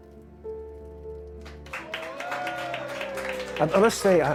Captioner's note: applause and cheering